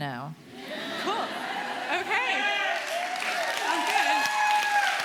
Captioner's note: audience applauding